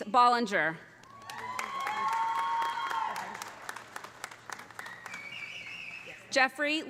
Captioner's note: audience applauding; audience cheering